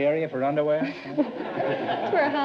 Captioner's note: laughs